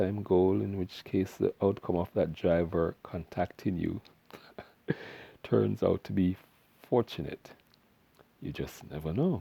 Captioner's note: haha